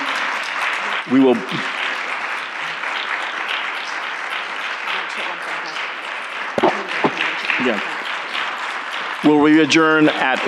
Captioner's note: applause